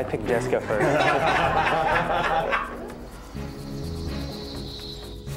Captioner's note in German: lacht